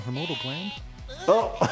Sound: gagging; Cartman groaning

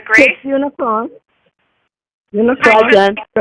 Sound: mumbles

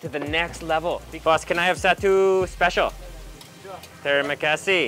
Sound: speaking in foreign language

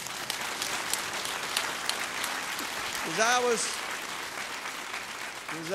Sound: applause

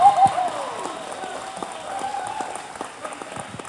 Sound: cheers

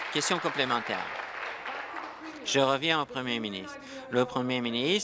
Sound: applause

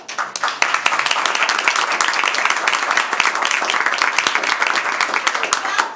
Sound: applause

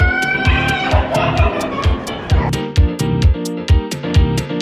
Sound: laughing

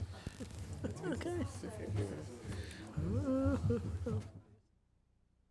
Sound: board members chattering

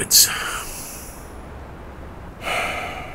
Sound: Fillion sighs, then whistles. Sound of vehicle crunching through snow

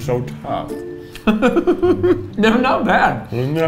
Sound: laughs

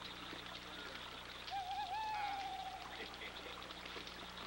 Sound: bird calling

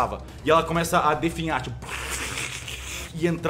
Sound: plrrgh

